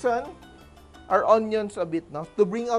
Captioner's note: sizzle